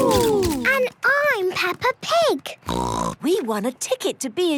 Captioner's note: snort